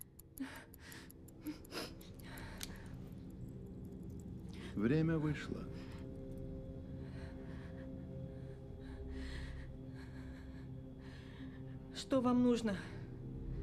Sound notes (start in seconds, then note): 0.6 sniffles